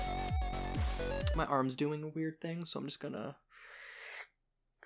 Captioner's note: schlurping sound